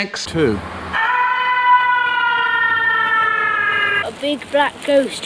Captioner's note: reverbed screaming